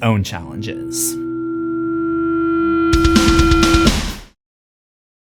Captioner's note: amp feedback